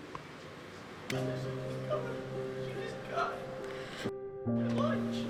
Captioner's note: sad noises